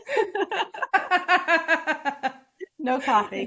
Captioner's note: laughing